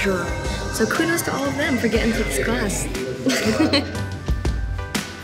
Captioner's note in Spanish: risas